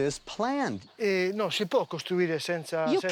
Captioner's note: speaks Italian